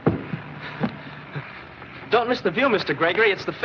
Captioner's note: chuckles